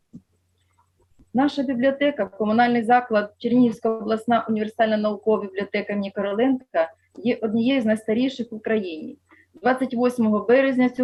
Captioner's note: foreign Language